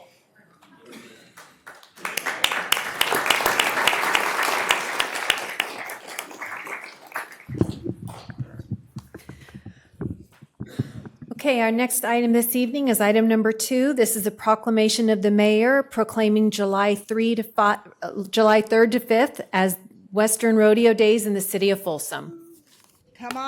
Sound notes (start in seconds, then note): 8.7 applause